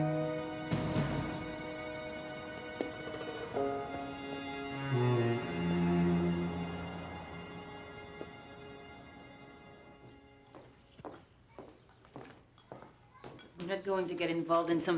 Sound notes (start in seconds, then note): 2.3 footsteps shuffle; 10.4 birds chirp; 11.5 heels clack